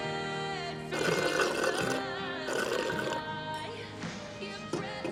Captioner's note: slurping